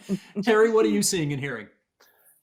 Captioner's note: laughter